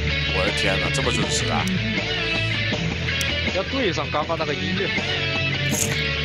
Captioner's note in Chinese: 泣不成声